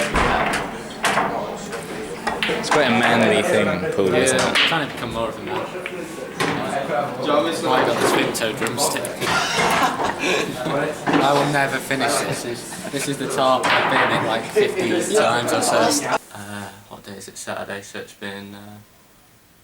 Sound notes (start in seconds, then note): 9.2 laughs